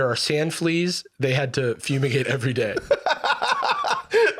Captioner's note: laughs